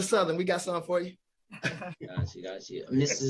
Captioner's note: laughing